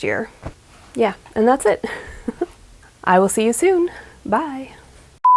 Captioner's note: giggles